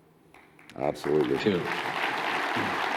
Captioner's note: audience applauding